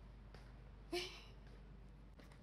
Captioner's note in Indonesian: Sigh